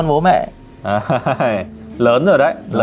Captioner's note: laughing